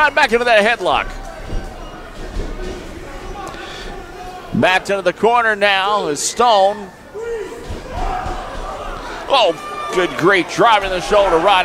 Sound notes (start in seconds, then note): 7.8 crowd cheers